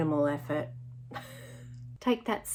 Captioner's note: chuckling